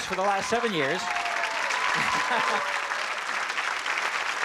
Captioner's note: applause and cheering